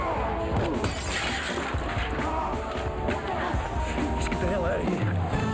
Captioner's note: glass shatters